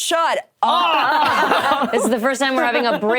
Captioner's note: group laughing